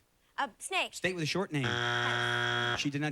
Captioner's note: buzzer